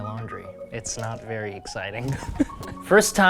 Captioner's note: laughs